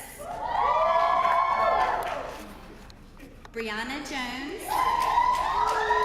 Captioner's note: applause